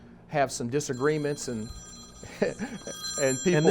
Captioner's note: phone ringing